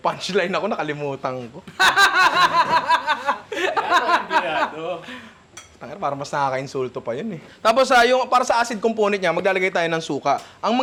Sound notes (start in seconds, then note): 1.6 laughter